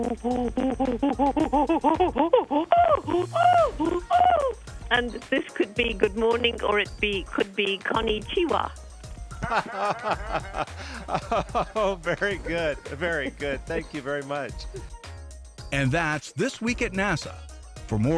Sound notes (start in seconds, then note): 2.8 ape sounds; 9.4 laughter